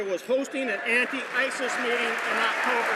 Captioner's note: some Applause